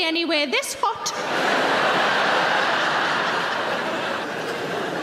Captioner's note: audience laughs